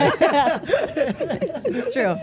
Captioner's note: everyone laughing